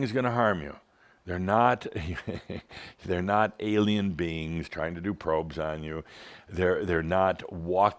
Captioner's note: Adamus chuckles